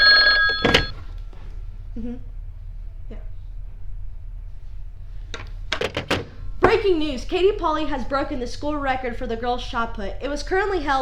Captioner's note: phone rings